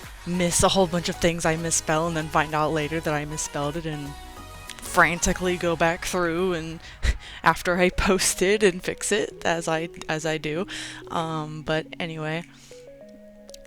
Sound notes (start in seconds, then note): 6.2 laugh